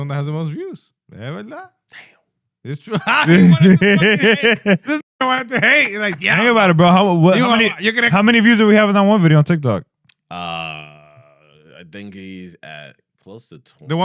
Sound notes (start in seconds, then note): 2.9 laughter